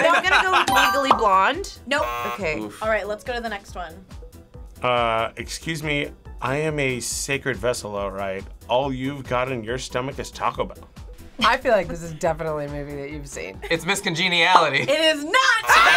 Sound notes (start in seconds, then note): 1.9 buzzer; 15.6 buzzer